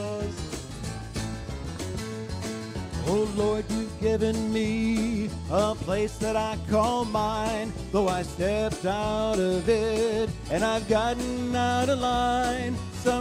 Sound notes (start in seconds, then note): 3.1 baritone voice